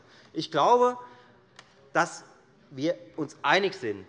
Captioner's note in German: none